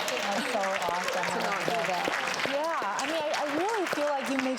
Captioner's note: applause